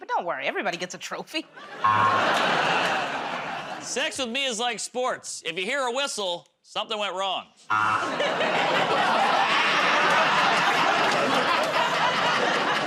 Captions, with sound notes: but don't worry -- everybody gets a trophy. [ Laughter, buzzer ] -Sex with me is like sports. If you hear a whistle, something went wrong. [ Laughter, buzzer ] -[ Laughs ]